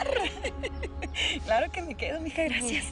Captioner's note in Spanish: Ríe